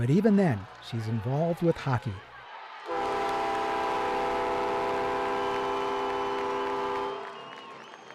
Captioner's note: horn blowing